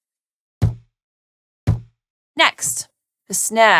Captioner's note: thud